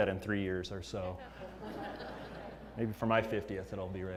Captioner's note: laugh